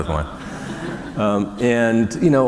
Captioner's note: laughter